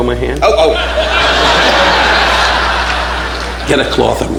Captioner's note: audience laughing